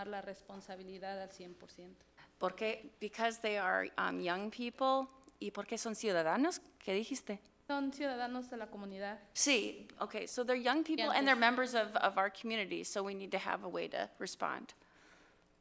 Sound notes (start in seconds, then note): 4.7 board member speaks foreign language; 7.9 speaks foreign language